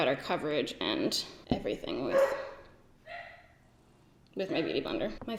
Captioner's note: dogs bark